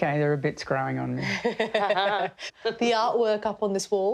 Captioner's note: laughter